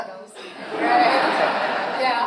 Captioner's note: audience laughs